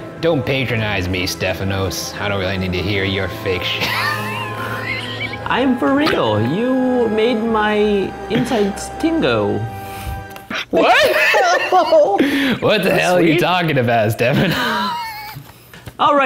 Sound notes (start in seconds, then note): 3.7 laughs; 10.7 laughter